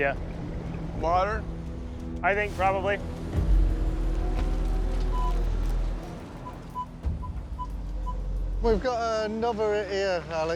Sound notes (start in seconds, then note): 5.1 metal detector beeping